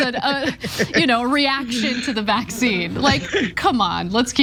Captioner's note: laugh